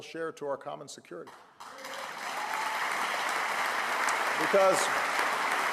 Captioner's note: applause